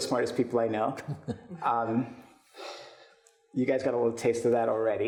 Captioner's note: chuckles